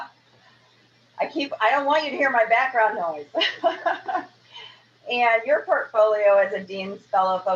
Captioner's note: laughs